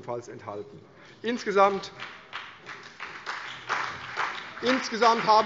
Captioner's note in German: Beifall CDU und BÜNDNIS 90/DIE GRÜNEN